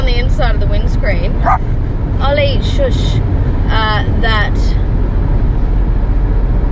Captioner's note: Ollie barks